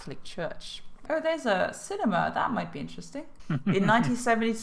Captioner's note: chuckle